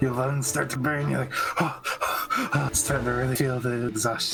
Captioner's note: heavy breathing